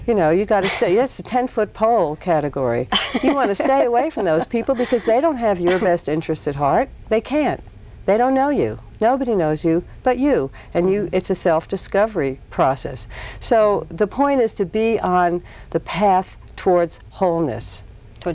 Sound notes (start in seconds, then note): 2.9 laughs